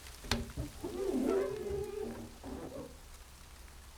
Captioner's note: glass squeaks